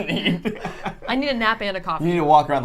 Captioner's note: laughs